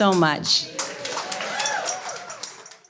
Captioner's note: audience cheers